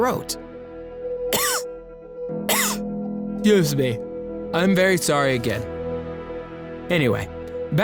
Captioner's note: cough